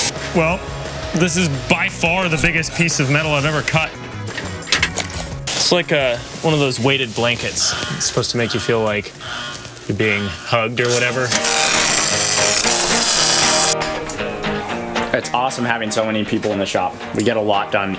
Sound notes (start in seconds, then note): 0.0 tool hissing; 11.4 intense buzzing; 11.4 lively music